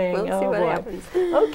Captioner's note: laughing